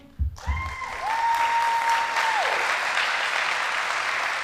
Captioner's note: audience applauding